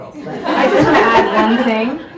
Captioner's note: audience laughs